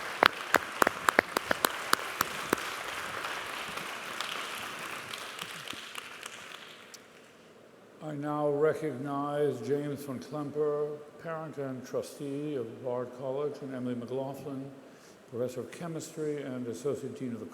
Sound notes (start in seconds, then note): 3.1 cheers and applause